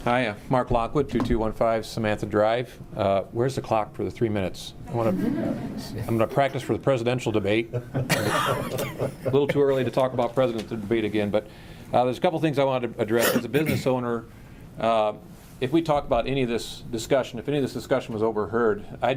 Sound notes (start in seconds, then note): 5.0 laughter